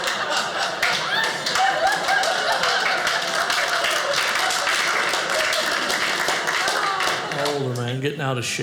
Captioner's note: audience laughing; audience applauding